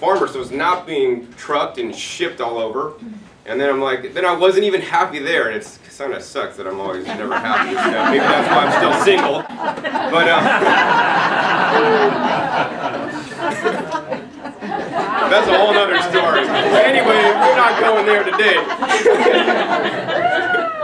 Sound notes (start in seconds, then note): 12.2 crowd laughing